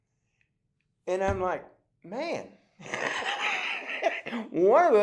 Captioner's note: laughs